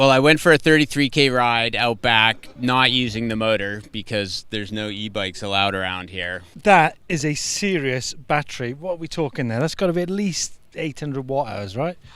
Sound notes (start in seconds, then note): none